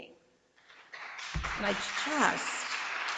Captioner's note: audience applauds